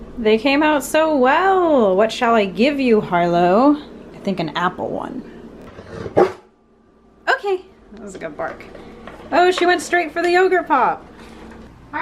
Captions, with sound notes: They came out so well! What shall I give you Harlow? I think an apple one. *Barks* Okay! That was a good bark. Oh, she went straight for the yogurt pop!